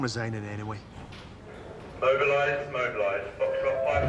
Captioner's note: man over P.A